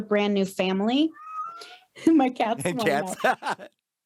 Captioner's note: cat meowing; laughs